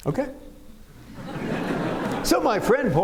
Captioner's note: laughter